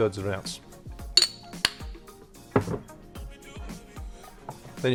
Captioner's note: lid clunks